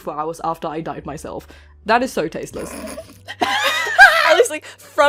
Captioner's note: laughing; laughter